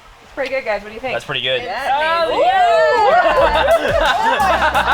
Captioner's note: noises of agreement and excitement; laughter